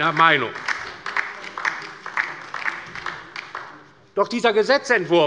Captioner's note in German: Beifall bei der LINKEN